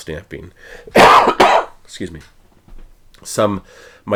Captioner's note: coughs